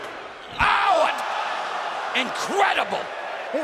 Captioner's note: fans cheering